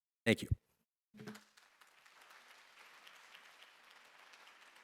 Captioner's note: applause